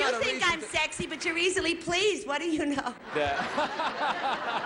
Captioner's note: laughs